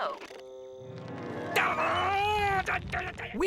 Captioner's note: growling